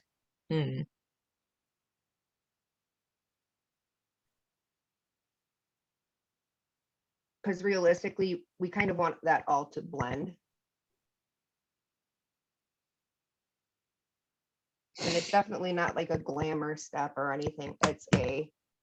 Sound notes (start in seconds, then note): none